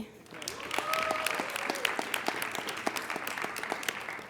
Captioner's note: applauding